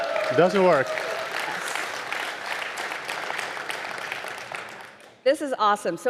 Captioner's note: audience cheering; audience applauding